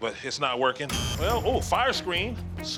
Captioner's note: buzzer blares